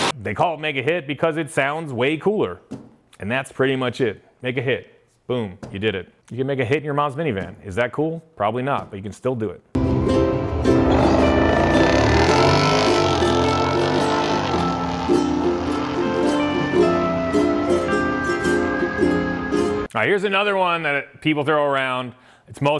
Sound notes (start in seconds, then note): 9.8 engine roaring; 9.8 gentle music